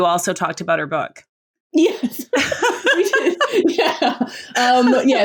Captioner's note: laughs